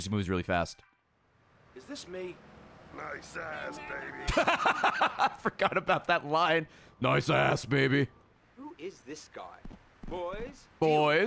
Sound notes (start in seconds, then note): 3.6 laughs